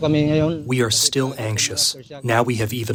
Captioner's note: through translator